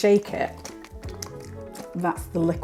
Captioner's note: sloshing